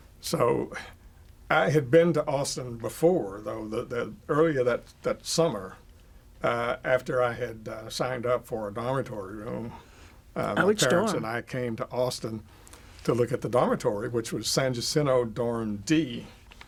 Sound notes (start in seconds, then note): none